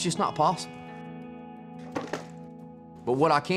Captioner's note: thud